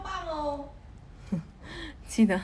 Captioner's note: chuckles